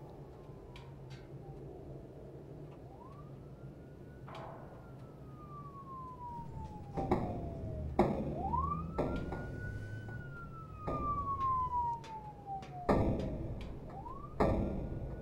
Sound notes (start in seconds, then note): 0.0 sirens; 1.2 pipes banging